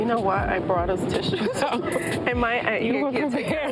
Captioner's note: laughs; both murmur